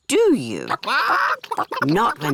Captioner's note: chickens chatter